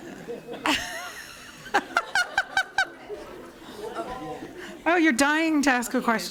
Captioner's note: laughter